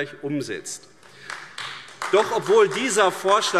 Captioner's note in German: Beifall AfD